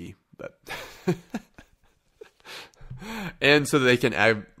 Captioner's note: chuckling